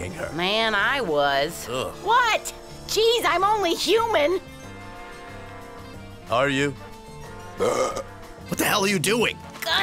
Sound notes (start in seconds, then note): 1.1 groans; 7.4 burp